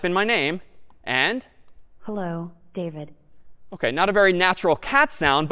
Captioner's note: feminine robotic